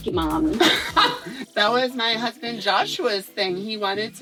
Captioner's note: laughs